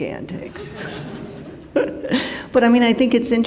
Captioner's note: laugher